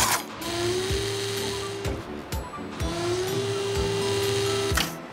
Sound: clank; mechanical whirring

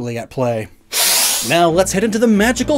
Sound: sniff

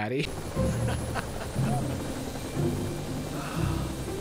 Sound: laughs

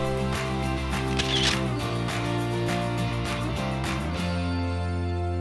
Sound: upbeat music; camera clicks

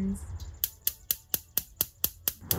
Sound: gas stove clicking

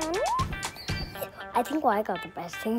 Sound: screeches

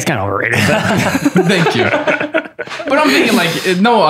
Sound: laughter

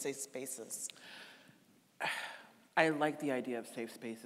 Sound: sighing

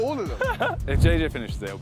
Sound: Jimmy laughing

